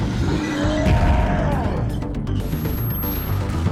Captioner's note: roaring